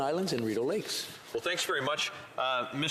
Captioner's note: speaking French